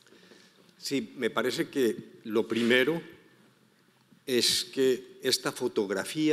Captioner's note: speaking in foreign language